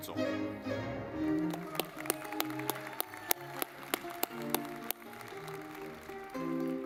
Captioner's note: lively music; audience clapping